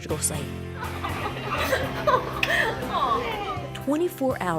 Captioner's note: laughing